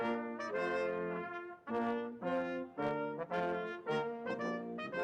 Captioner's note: none